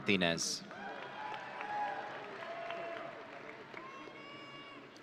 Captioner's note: audience cheering